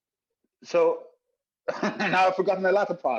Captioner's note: laughs